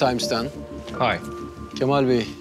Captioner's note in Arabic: يتكلم الإنكليزية